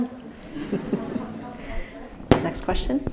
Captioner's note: audience laughing